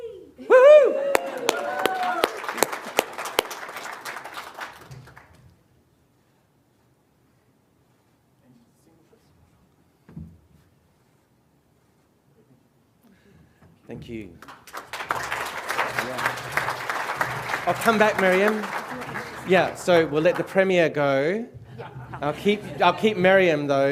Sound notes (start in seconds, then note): 2.1 cheering and applause; 20.4 applause; 21.6 laughter